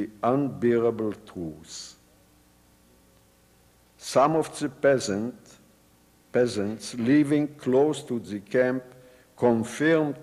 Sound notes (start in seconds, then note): none